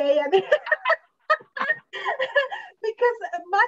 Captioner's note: laughs